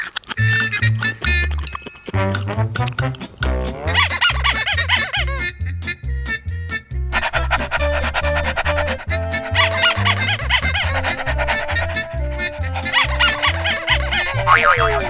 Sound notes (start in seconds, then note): 3.8 toy squeaking; 9.1 dog panting